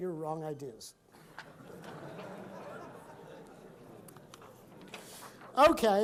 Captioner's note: laughing